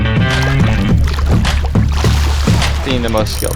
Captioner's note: splashing